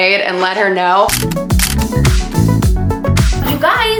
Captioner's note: camera clicks; upbeat music